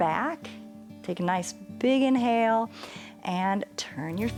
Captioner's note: inhales